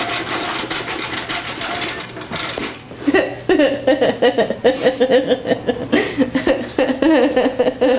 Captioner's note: laughs